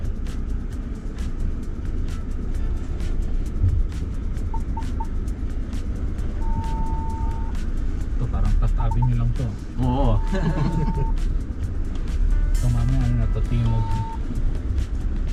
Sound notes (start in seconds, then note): 10.2 laughs